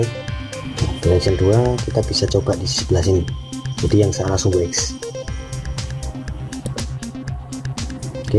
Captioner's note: click